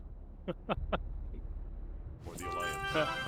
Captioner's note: laughing